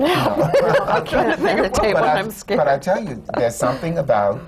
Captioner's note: laughs